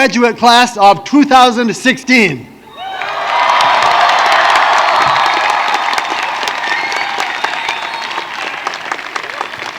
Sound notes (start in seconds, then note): 5.3 applause